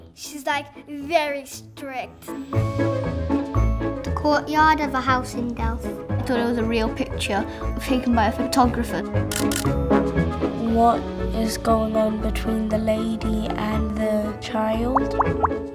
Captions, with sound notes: She's like, very strict. [Upbeat music plays] 'The Courtyard of a House in Delft'. I thought it was a real picture taken by a photographer. [SFX Camera shutter clicking] What is going on between the lady and the child?